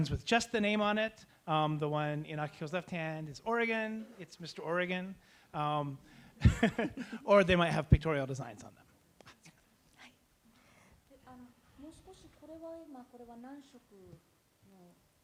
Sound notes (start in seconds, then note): 6.4 laughs; 11.0 speaking japanese